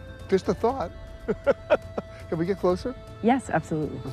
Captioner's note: chuckles